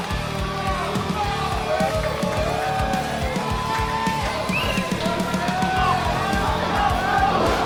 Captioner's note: Referee yelling at Alex; crowd going crazy